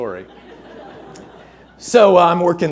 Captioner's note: audience laughing